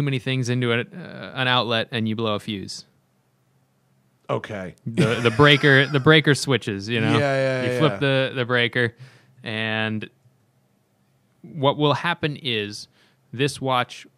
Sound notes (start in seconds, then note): 4.9 laughter